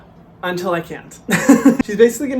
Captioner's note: laughs